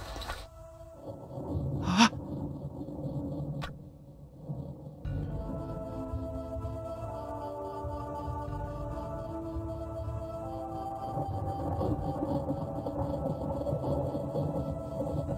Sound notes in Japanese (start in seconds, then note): 0.1 雷の音：ゴロロロ･･･; 5.8 心細いbgm